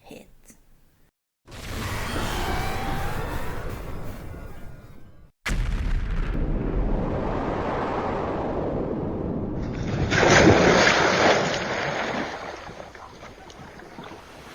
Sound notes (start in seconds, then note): 1.7 Attack and crash of the Degasi